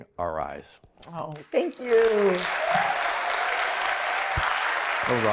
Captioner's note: applause